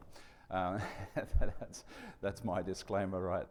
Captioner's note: chuckles